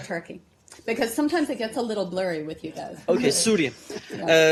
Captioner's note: laughter